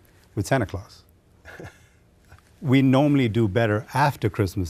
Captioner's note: chuckles